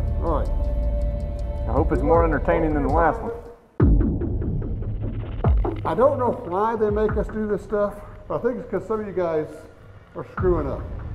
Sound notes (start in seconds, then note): 1.5 voiceover; 3.4 ominous overtones; 5.8 voiceover